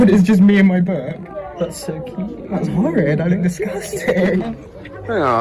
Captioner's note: laughs